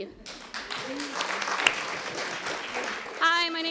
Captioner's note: applause